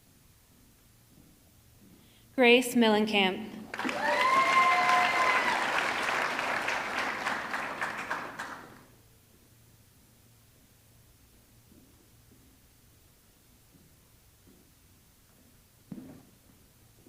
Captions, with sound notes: Grace Millenkamp, (audience clapping) (audience cheering)